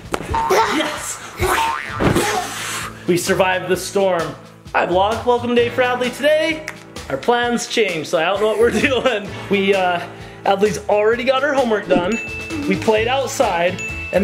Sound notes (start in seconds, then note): 1.5 spring boinging; 6.6 clicks fingers; 8.4 laughs; 12.0 bell dings